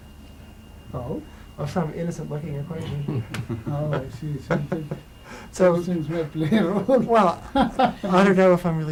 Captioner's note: laughs